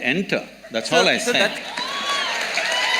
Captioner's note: cheering